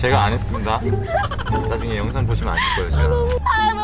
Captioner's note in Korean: 웃느라 숨 넘어가는 두 여성